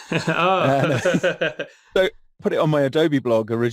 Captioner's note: laughs